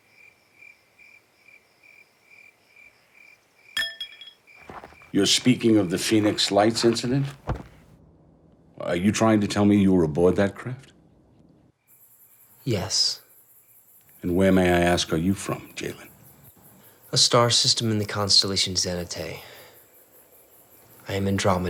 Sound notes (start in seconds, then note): 0.0 crickets chirping; 3.8 metal clinking